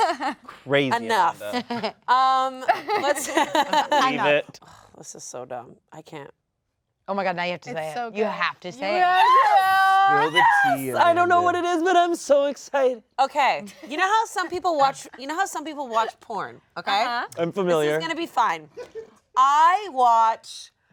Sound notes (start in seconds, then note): 5.1 laughs; 8.9 all yell